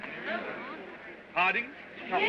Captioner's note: crowd murmurs